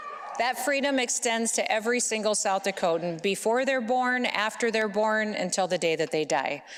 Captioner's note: baby crying